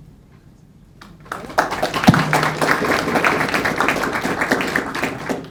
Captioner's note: crowd clapping